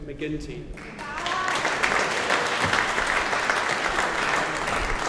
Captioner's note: audience applauding